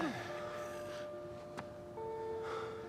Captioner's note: POE heavy breathing